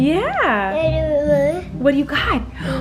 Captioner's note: baby coos